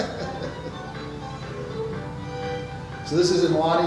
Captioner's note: laughs